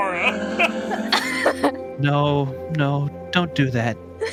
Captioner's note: laughs